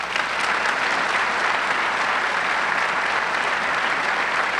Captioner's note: audience clapping